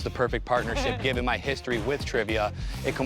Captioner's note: chuckles